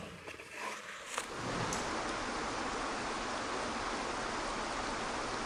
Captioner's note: waterfall splashing